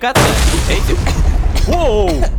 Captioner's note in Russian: кашляют